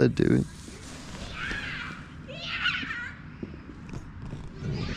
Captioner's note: kids playing